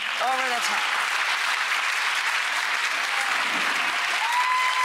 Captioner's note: applause